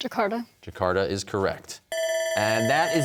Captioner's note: bell ringing